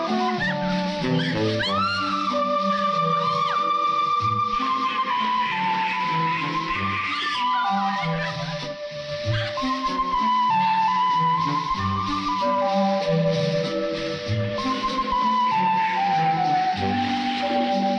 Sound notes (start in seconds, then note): 4.7 ducks quaking; 9.5 light playful music continues